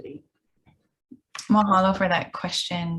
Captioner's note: speaks in foreign language